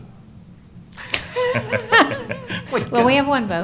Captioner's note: laughter